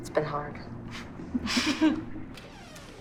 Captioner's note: both chuckle